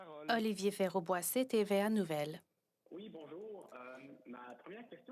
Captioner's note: speaking French